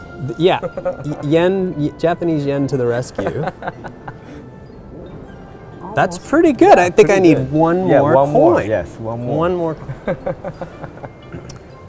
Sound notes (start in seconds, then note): 3.1 laughing